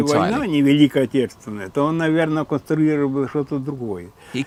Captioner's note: Russian spoken audio